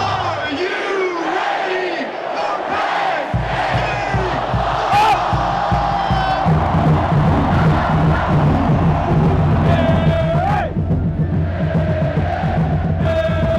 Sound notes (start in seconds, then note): 11.0 chanting